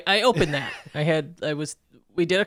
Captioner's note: chuckling